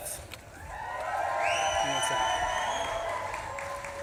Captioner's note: audience claps and cheers